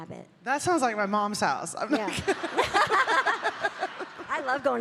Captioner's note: laughing